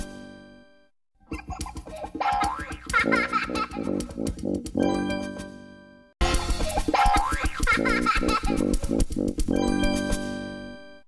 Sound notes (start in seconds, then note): 1.2 kid laughs; 6.6 kid laughing